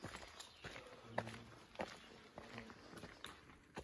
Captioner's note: footsteps on gravel path